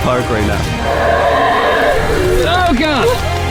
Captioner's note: howling